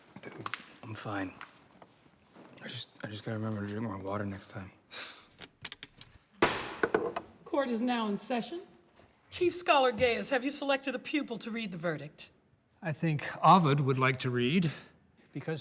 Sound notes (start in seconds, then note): 5.0 sighs; 6.4 bangs gavel